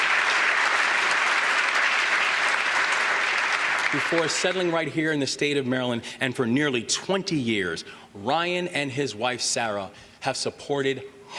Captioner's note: applause